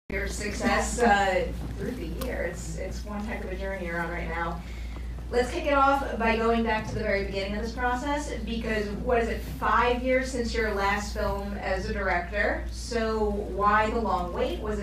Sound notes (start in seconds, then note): none